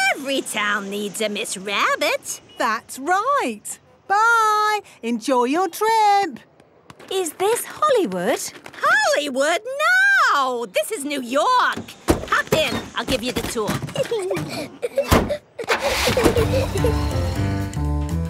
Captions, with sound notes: - Every town needs a Miss Rabbit! - That's right. Bye! Enjoy your trip! - Is this Hollywood? - Hollywood? No! This is New York! Hop in! I'll give you the tour. (Peppa and George laughing)